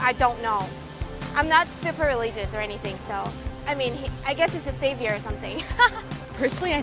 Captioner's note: laughs